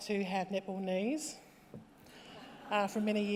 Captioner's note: laughter